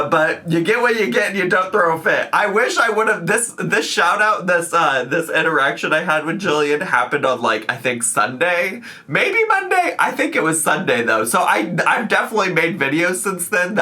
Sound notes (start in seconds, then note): none